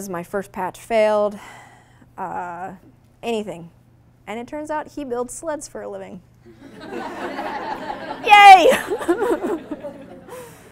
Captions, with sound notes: My first patch failed, anything? And it turns out, he builds sleds for a living. (audience laughing) Yay!